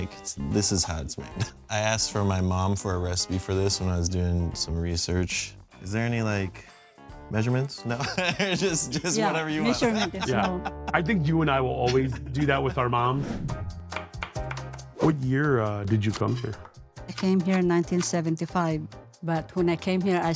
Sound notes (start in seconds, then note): 7.9 laughing; 13.4 light upbeat music; 13.9 knife chopping shallots